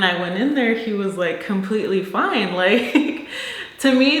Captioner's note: chuckles